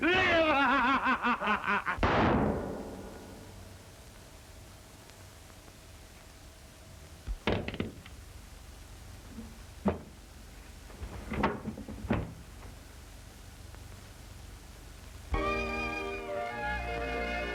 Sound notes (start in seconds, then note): 0.0 maniacal laughter; 3.9 gun shot